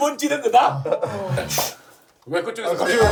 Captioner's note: sniffle